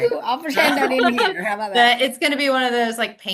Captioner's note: laughs